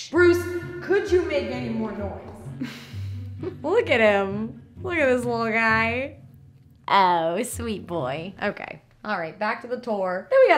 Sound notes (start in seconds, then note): 2.4 laughs